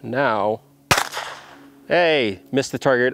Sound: gun fires

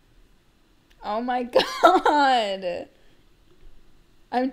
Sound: laugh

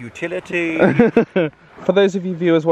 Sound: laughs

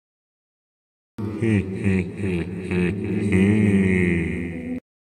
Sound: evil laugh

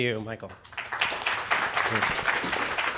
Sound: applause

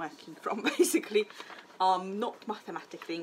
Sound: seamstress laughing

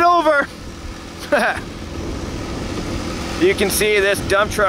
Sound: laughing

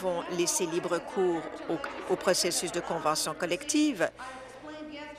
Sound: applause

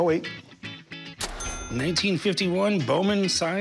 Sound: ka-ching

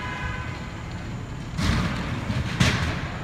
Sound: crash

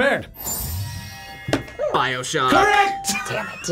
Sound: buzzer barks

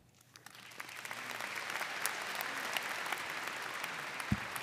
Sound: audience applauding

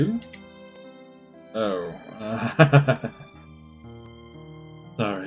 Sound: laughs

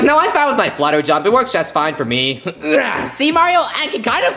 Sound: grunting

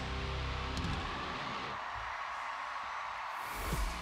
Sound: song ends, cheers and applause

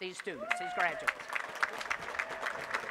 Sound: applause

